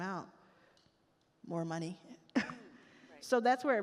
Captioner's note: chuckles